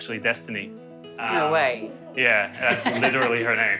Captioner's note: laughing